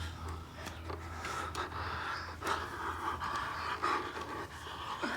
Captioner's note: both breathing heavily